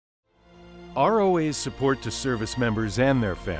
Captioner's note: voiceover